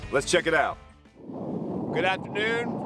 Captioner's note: wind blowing